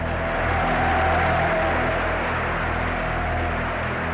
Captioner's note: audience cheering